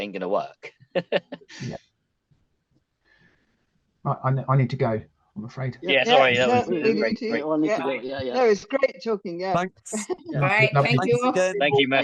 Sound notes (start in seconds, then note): 5.8 group chattering